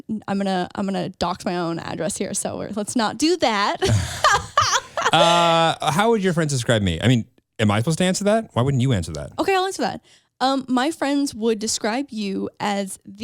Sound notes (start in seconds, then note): 3.8 laughs